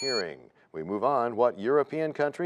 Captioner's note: bell rings, time expires